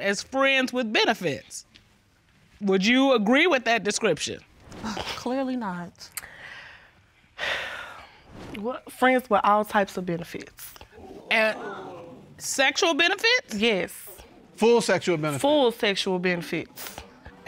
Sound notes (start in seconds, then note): 4.6 scoffs; 7.4 sighs; 11.0 audience gasps